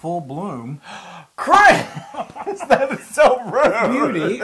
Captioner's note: laugh